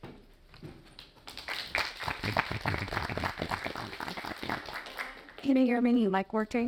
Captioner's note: audience applauding